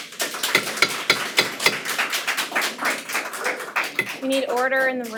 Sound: attendees applaud; gavel pounds

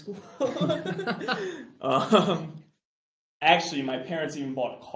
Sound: laughter

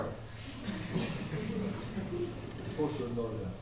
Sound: laughter

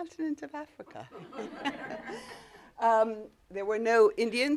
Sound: laughter

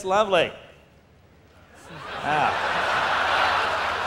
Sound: laughter

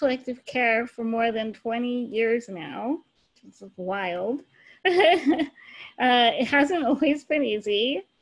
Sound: laughs

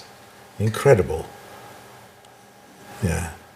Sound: none

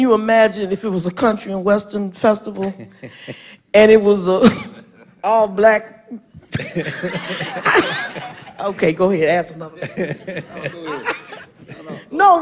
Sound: laughter

